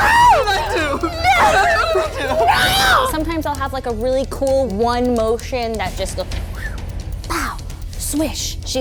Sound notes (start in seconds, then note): 6.5 whistles